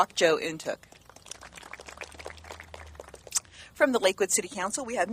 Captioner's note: clapping